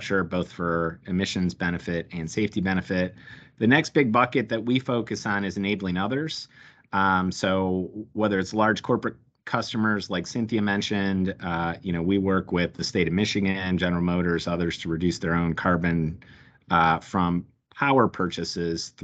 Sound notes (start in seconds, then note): none